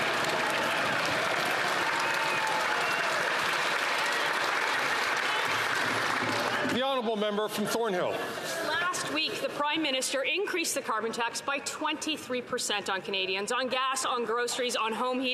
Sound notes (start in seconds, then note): 4.4 some Applause